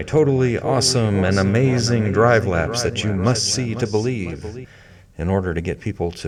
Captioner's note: dramatic echoing